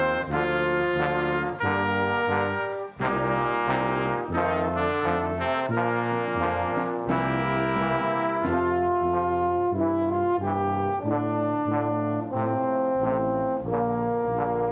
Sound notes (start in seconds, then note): none